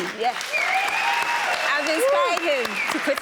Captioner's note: audience cheers